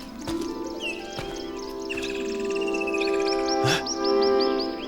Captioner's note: angelic music; bird calls